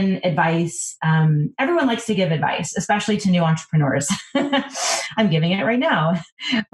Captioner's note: laughs